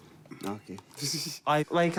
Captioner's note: chuckles